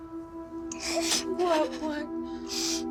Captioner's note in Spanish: Sollozos